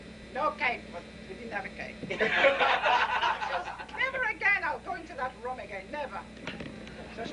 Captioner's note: laughter